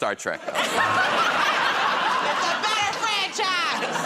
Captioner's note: laughter